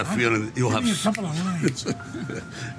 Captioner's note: fingers snapping